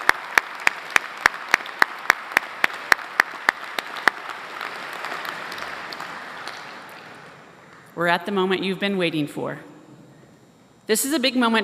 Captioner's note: applause